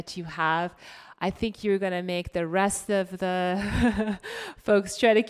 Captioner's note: laughs